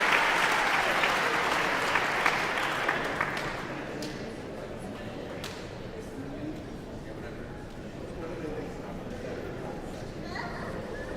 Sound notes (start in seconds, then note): 0.0 audience cheering and applauding; 6.2 audience chattering